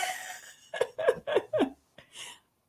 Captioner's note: laughter